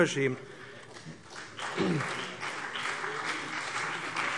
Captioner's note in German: Beifall BÜNDNIS 90/DIE GRÜNEN und CDU